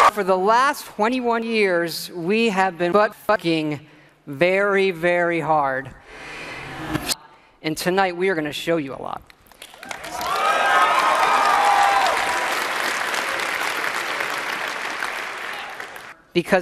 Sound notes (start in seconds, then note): 7.2 Todd inhales; 9.8 horny audience cheering